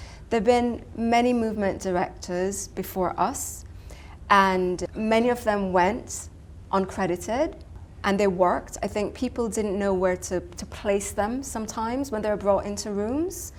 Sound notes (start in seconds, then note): none